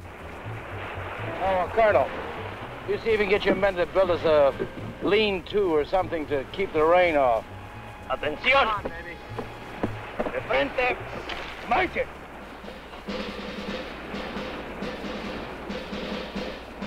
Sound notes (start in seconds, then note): 6.7 Colonel Cabeza speaking in Spanish; 11.8 upbeat instrumental music